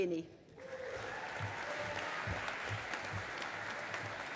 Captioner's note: audience applauding